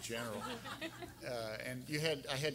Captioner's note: everyone laughing